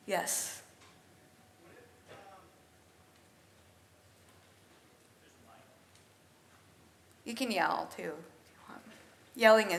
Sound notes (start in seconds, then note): 1.9 audience member speaks off-microphone